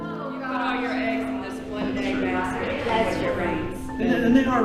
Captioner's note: people mumbling